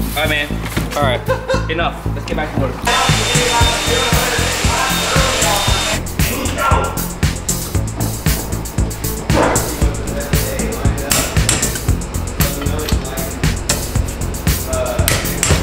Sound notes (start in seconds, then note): 2.8 welding noise; 5.4 gentle music